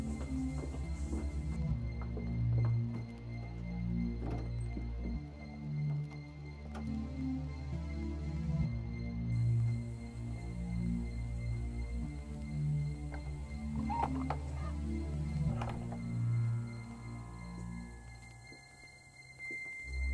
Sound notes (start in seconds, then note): 13.7 door creaking; 17.5 tense music